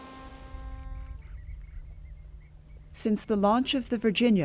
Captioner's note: insects chirp